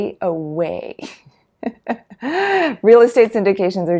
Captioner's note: laughs